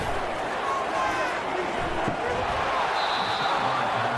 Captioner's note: crowd Noises